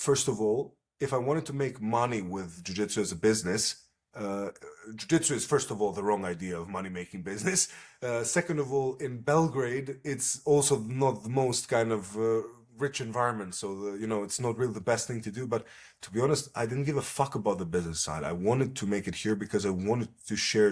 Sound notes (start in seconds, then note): 7.8 laughs